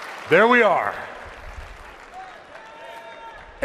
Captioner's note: applause